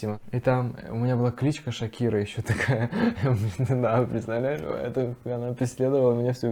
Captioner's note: laughs